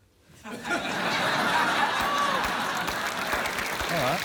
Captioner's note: laughter